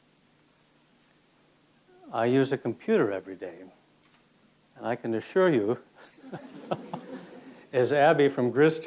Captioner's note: laughs